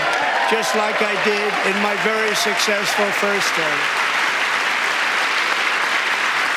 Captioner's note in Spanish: aplausos